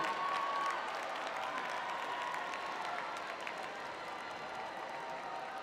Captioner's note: cheering